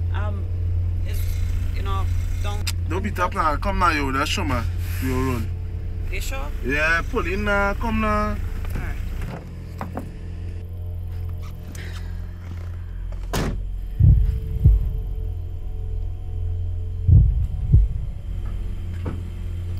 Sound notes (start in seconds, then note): 2.6 sucks teeth; 11.7 sighs